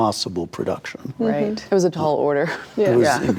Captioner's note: laughs